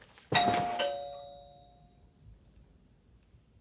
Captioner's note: doorbell rings